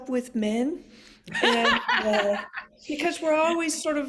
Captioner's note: laughs